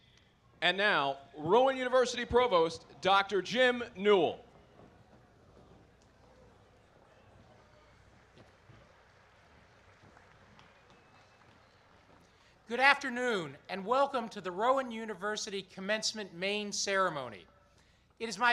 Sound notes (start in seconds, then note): 11.9 applause